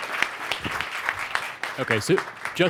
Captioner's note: applause